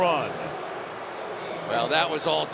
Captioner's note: booing